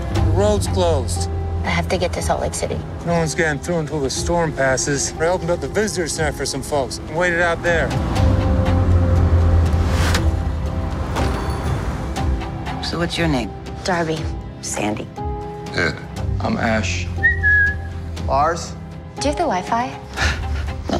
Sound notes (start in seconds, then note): 17.2 whistles; 20.2 laughs